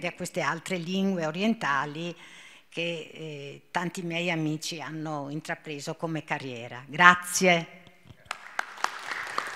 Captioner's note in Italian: Applauso